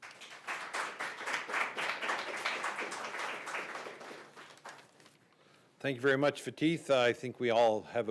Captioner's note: applause